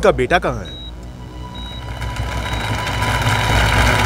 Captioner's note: Clapping